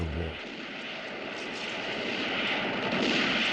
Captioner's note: war sounds